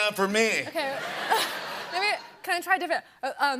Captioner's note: laughter